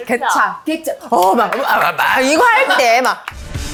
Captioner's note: mimicking popping sounds